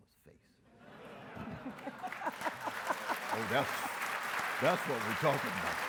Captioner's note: audience laughs and applauds